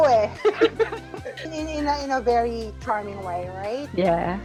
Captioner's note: laughs